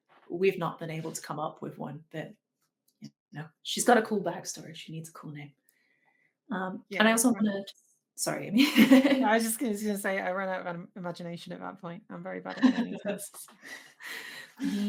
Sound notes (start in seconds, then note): 8.6 giggles; 12.5 laughs